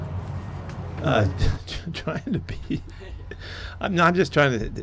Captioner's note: laughs